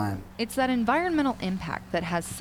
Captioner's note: voiceover